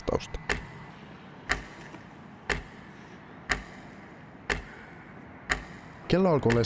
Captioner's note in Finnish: kellon tikitystä